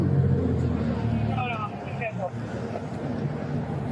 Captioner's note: radio chatter